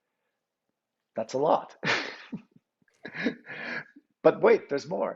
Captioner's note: chuckles